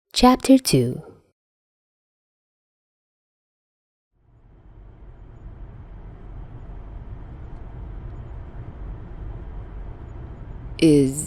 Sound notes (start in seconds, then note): 4.4 vrooooooom